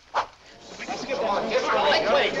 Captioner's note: excited crowd